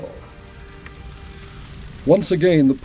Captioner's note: fire crackling